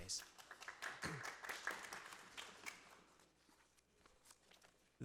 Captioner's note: audience applauding